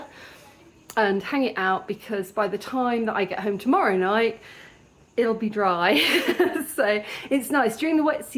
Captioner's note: laughter